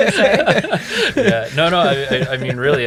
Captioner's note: all laughing